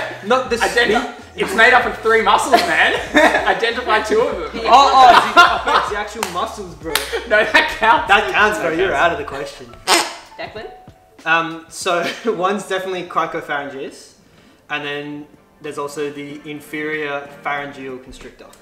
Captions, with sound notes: - Not the... - Identify... It's made up of three muscles, man. Identify two of them. (laughs) - That counts. - That counts but you're out of the question. - Declan. - So, one's definitely cricopharyngeus and then there's also the inferior pharayngeal constrictor.